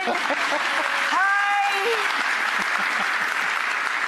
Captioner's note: laughter